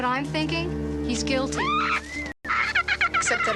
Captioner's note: bird squawking